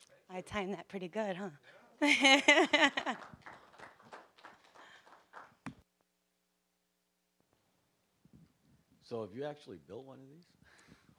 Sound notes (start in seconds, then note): 2.0 laughing; 2.5 applause